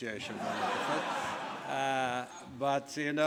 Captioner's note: laughing